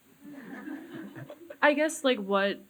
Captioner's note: audience laughing